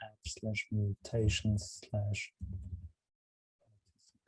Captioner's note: whispers